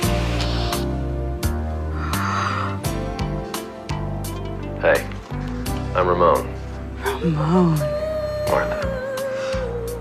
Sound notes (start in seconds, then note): 2.2 gasps